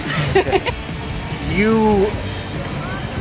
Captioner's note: laughter